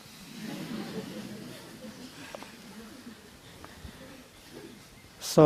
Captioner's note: laughter